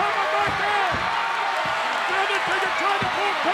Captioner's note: audience cheers